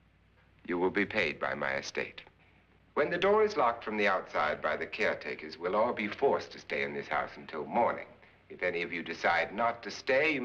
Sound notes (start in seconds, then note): none